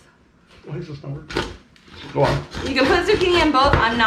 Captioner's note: quietly